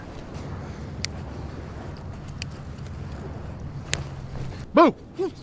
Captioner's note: fingers snapping; gang member whimpering